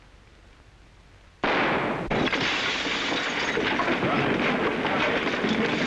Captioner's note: gun firing; chandelier shattering; commotion